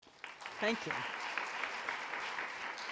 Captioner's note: audience applauding